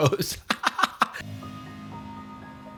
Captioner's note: laughs; tense Music